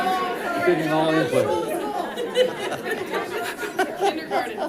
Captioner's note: audience laughing